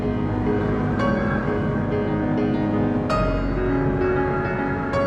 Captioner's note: cinematic piano score; howling wind and windchimes